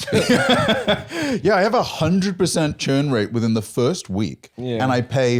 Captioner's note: laughs